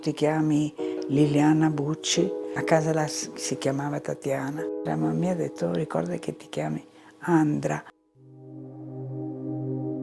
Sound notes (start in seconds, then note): 2.2 continues speaking in foreign language